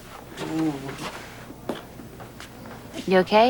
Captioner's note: groans